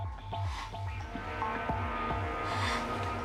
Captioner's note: gasps